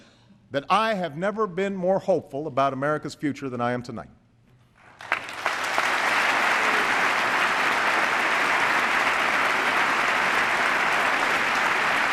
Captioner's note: applause